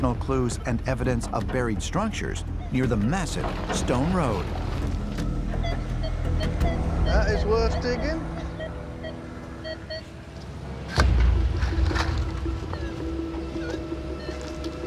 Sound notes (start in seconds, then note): 4.8 beeping; 10.5 dramatic music playing; 12.5 beeping and warbling